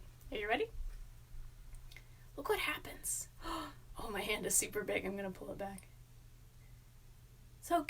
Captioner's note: gasp